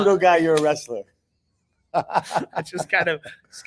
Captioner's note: laughing